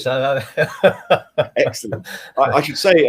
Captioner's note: laughing